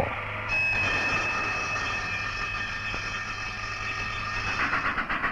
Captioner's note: sound of machinery; train engine